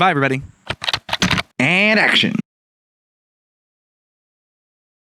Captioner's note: typing